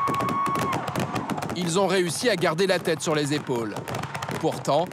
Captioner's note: fireworks explode